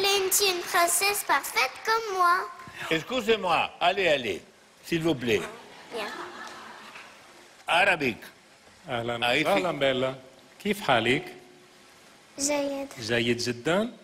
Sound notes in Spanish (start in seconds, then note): 6.0 aplausos